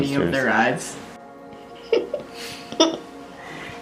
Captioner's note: giggling